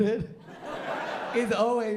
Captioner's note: laughter